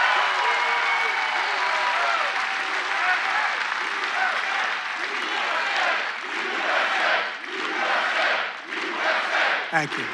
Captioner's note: audience chants "USA"